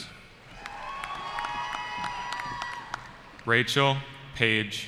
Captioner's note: cheering